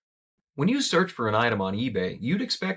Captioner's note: voiceover